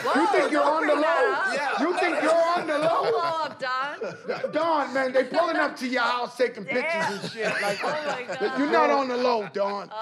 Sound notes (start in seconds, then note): 4.1 laughs